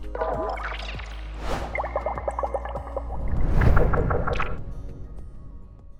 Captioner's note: graphics whooshing and burbling